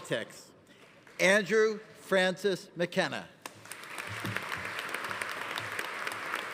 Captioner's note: audience applauding